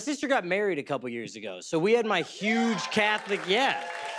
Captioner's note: cheers and applause